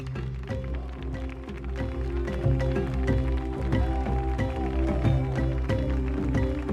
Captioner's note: audience clapping; soft rhythmical music